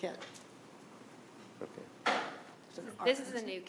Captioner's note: door latches